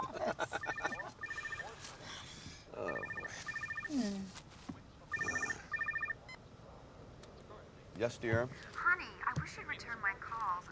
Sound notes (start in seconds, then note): 0.0 laughing; 2.8 phone ringing